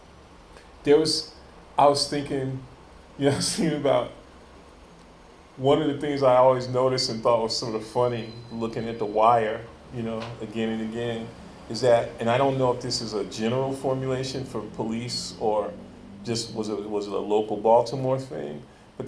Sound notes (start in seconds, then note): 3.2 chuckles